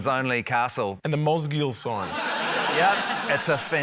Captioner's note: laughter